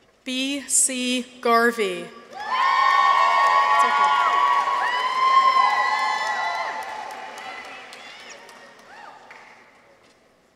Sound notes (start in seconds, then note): 2.2 people cheer; 2.3 audience applauds